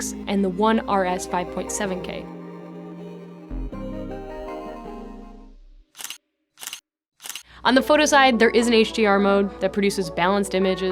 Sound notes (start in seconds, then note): 2.5 bright music; 5.6 camera lens clicking